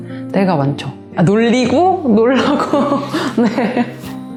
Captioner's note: laugh